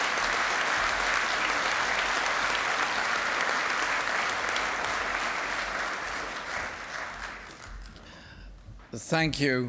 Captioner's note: applause